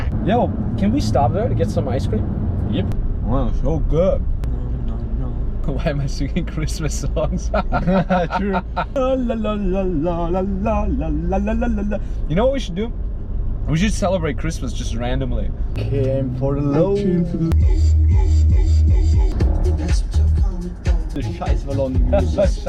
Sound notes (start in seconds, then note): 4.4 hums; 7.3 laughs